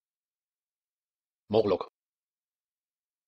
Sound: fast Pronunciation

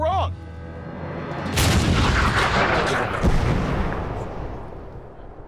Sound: cannon banging

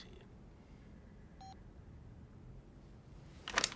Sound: beep

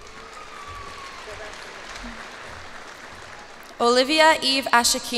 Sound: cheers and applause

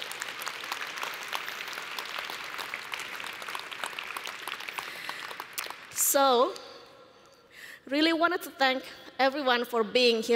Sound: applause

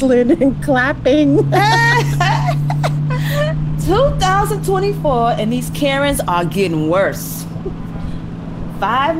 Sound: laughter

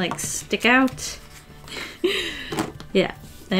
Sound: deep inhale

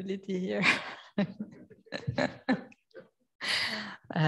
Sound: laughs

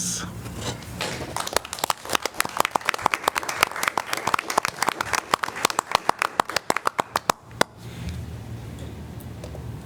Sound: applause

